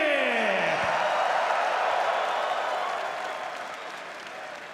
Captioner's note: crowd cheering